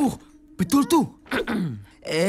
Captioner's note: clears throat